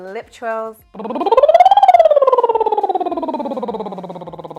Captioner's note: lips trilling